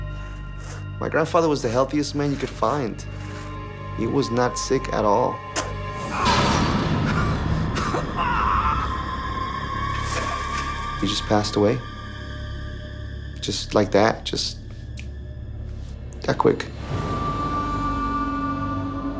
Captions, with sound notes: My grandfather was the healthiest man you could find. He was not sick at all. (groaning) He just passed away. Just like that, just (snaps) that quick.